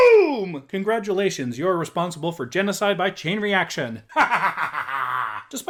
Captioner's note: cackles maniacally